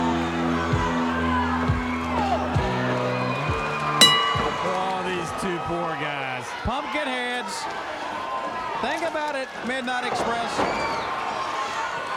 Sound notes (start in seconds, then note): 1.4 applause